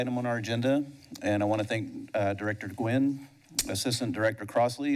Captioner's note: smacks lips